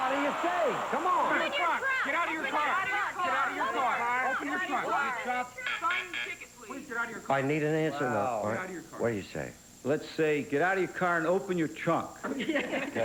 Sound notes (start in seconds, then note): 1.8 all shouting; 5.4 buzz buzz buzz